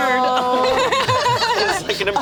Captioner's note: group laughs